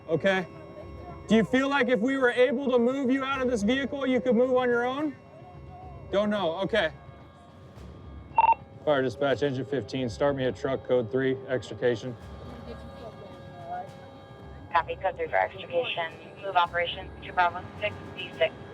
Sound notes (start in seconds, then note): 8.3 beeping